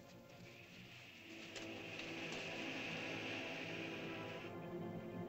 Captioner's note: ominous music; lizard makes soft hissing sound; ominous music